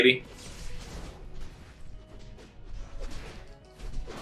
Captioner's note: fighting sounds